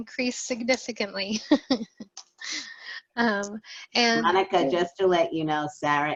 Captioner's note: laughter